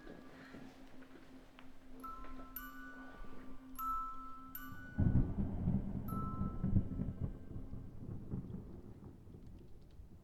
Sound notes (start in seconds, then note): 0.1 gentle chimes music; 4.9 thunder rumbles